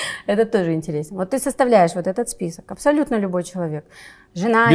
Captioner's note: laughs